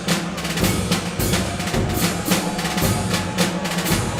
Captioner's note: cheering